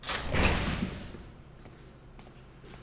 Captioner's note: door opens